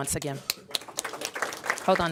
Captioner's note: applause